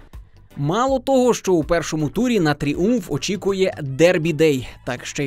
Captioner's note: voiceover